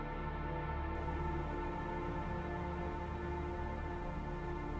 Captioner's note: trees rustling